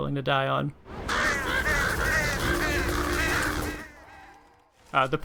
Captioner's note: crows Cawing